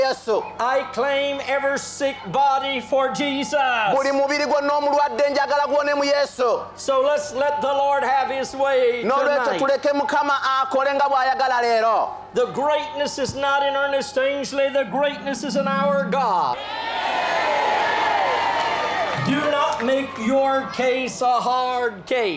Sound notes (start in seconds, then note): 16.5 boisterous applause and cheering